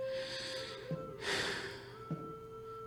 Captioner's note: long sigh